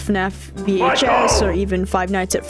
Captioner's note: shouting